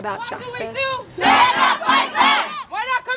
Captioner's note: chanting